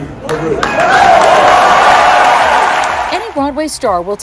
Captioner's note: audience cheering